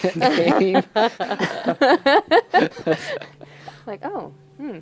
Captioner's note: laughter